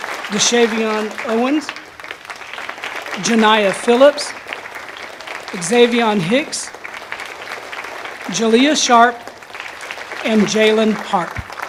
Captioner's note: applause